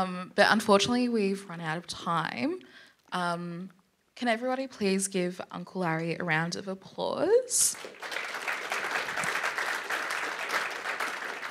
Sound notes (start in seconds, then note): 7.7 applause